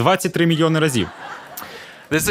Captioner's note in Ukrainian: Сміх